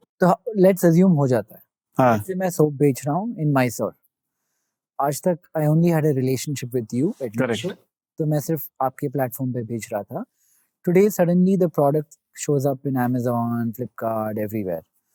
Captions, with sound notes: Let's assume that it happens successfully. [speaking in Hindi] Today, suddenly, the product shows up in Amazon, Flipkart, everywhere.